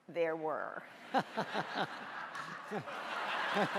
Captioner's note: laughing